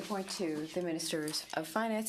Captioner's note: speaking in french